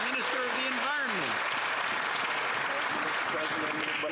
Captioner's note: some Applause